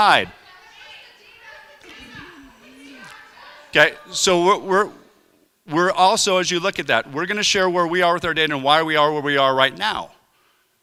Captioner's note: crowd heckling